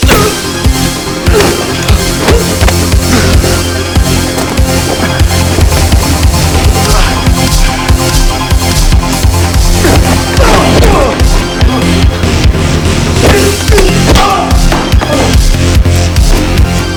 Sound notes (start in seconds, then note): 0.1 moves into dramatic electronic music; 10.3 Anton cries out; 13.1 dramatic electronic music